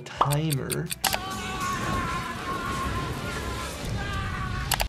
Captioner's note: mam screams